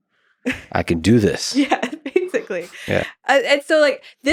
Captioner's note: chuckles